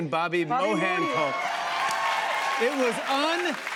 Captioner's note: cheers and applause